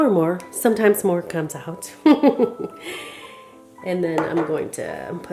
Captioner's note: chuckles